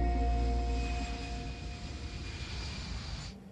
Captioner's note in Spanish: Ruido de motores